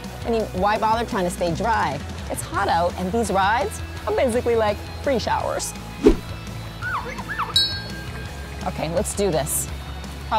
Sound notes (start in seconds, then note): 7.5 bell dinging